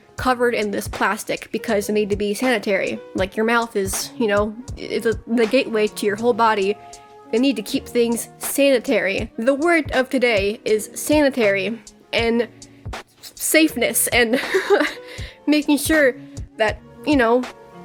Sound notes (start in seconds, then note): 14.2 giggles